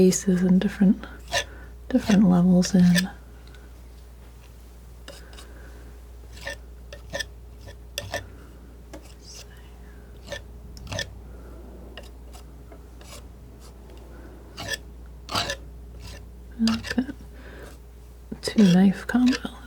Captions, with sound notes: and different levels in. [scraping] I like that two knife combo.